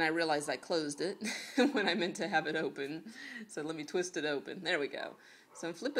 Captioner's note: chuckles